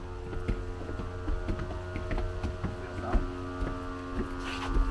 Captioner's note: shoes pattering